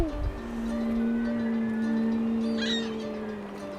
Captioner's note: baby coos; seal yawns